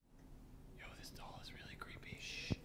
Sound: whispers

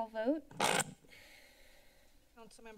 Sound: inhales

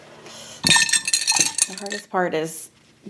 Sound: brushes clang

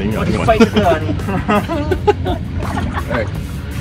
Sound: laughing

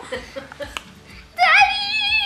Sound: laughs

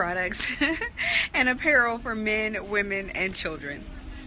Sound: laughs

